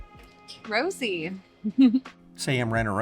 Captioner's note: giggles